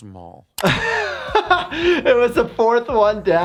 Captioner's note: laughs